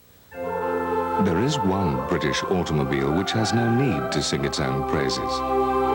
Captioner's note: V.O. with posh English accent